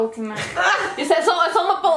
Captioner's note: laughs